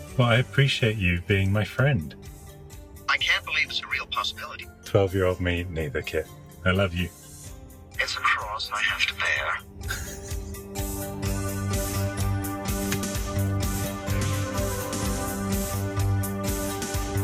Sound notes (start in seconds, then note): 9.8 laughs; 11.7 upbeat electronic music